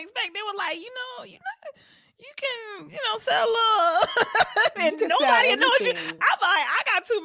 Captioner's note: laughter